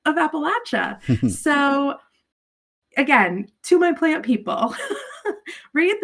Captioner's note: chuckles